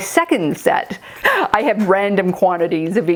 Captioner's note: gasps